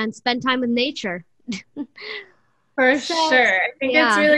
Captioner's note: laughter